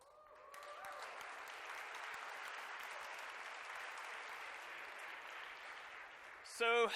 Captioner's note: applause